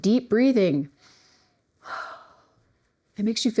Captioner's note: exhales